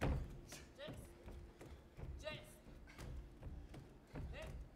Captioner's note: feet stomping